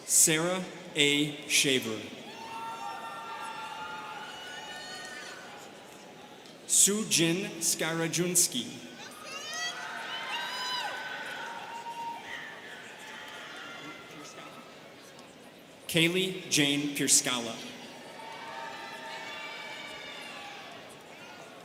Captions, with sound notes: Sara A. Shaver. (students cheering) Soo Jin Skarajunsky. (students cheering) Kaylee Jane Pierskalla. (students cheering)